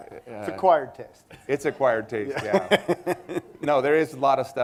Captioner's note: laughter